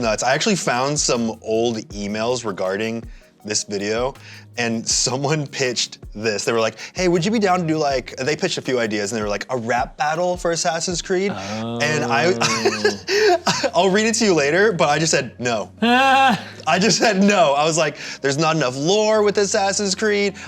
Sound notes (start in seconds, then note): 11.3 laughs; 16.7 laughs